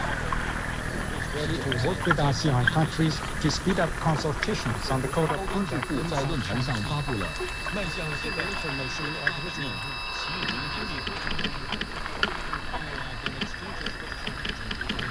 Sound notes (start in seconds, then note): 6.0 asian voices across the radio; 8.0 watery sounds, radio fuzz; 10.0 almost a creaking; 12.9 splashes and creaking